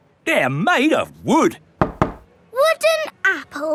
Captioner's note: knocks